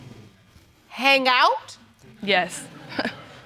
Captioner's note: chuckles